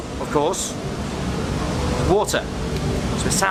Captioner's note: rushing sound